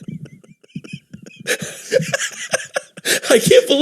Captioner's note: gasping for air